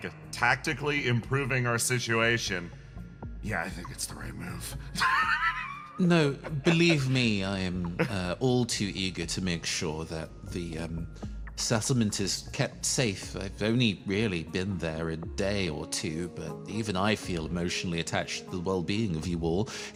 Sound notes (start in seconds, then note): 6.2 laugh